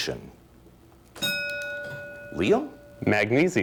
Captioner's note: ding